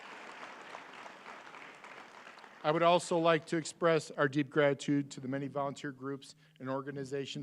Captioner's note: applause